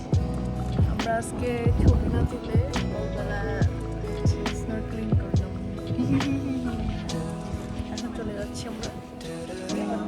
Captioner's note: devious laugh